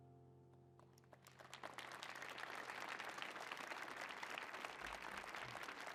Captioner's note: audience applauding